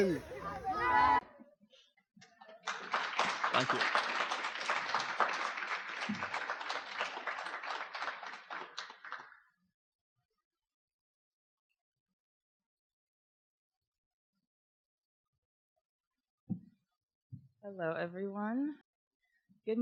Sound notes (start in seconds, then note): 3.7 audience applause